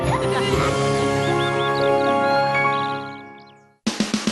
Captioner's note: bird chirping